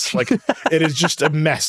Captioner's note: laughing